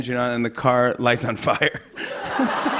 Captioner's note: laughter